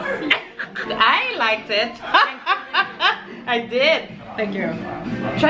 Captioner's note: laughs